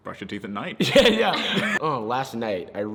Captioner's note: laughs